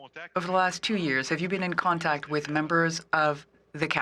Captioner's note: speaking French